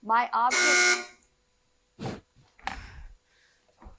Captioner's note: buzzer buzzing